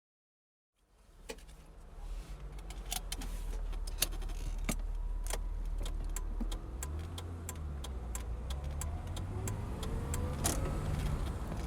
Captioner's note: car noises